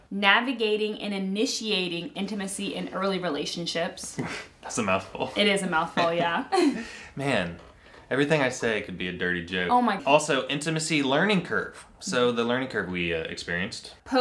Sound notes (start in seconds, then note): 4.2 laughs; 5.9 laughs together